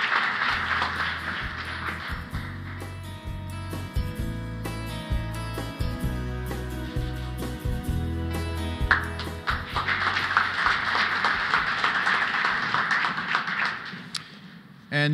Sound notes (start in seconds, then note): 0.7 applause